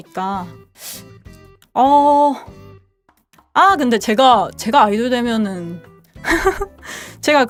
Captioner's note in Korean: 콧방귀; 웃음